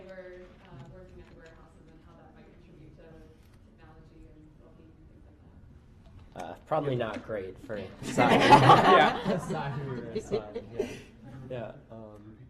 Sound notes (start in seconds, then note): 8.0 laughter